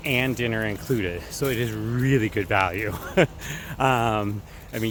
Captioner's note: laughs